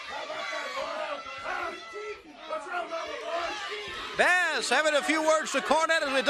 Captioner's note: crowd chatter